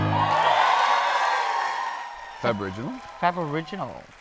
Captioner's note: applause